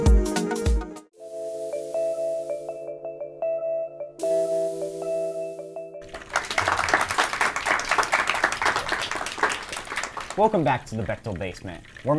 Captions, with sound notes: (calming music) (audience applause) - Welcome back to the BCTAL Basement.